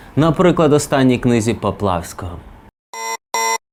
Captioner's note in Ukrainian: звук сирени